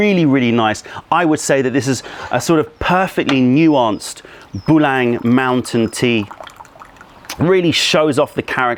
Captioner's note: pouring tea